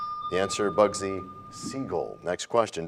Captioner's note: bell rings, time expires